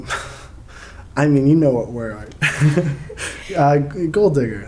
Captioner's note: chuckles